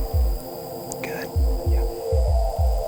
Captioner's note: whispering